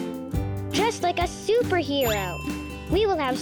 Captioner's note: bell dinging